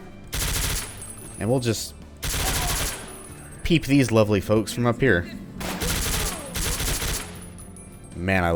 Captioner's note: rat-a-tat; MOAR rat-a-tatting; rat-a-tats again